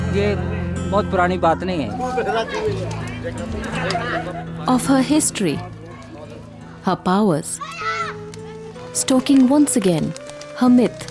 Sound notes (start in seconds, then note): 2.0 bonfire; 2.0 gentle music; 10.4 bonfire